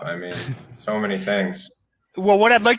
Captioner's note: chuckles